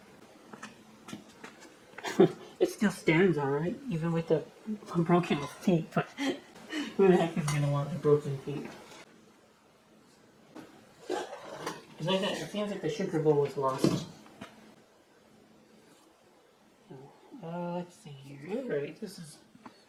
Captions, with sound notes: (Chuckling) It still stands all right even with the broken feet (laughing)... but who the heck is gonna want the broken feet? It's like that, it seems like the sugar bowl was lost. Oh, let's see here. Alright, this is...